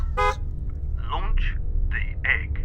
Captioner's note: hooter honks